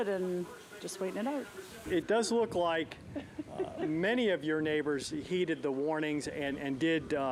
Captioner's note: laughter